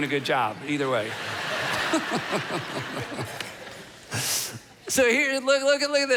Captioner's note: audience laughing